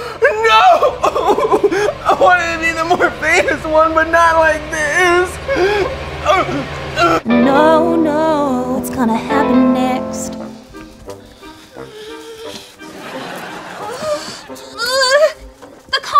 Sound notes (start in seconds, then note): 6.2 gags; 12.8 audience laughs